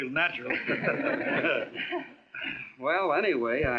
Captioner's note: laughing